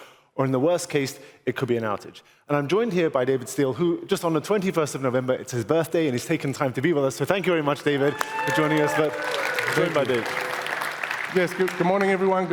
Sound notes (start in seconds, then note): 7.8 applause